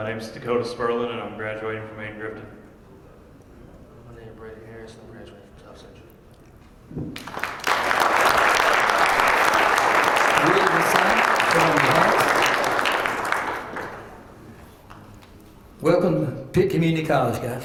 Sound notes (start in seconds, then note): 7.1 applause